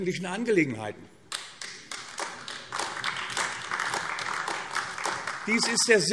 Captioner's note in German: Beifall AfD